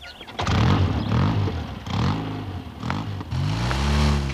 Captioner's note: engine revving